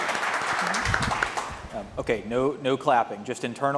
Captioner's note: audience applauding